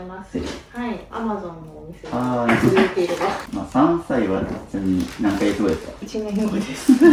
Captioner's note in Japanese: 鼻息